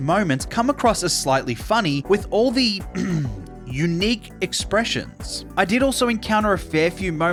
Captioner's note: ahem